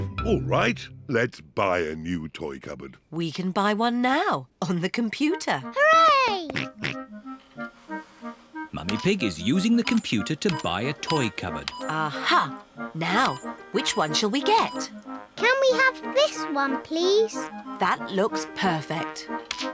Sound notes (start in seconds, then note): 7.3 snorts